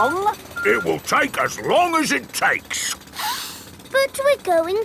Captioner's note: sniffs